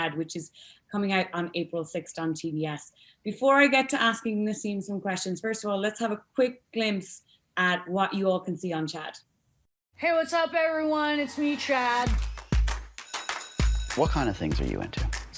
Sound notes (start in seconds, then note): 11.2 upbeat music; 13.0 bell ringing